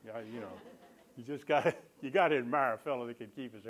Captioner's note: laughter